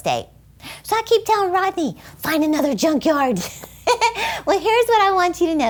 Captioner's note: giggling